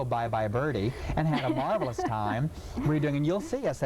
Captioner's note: laughing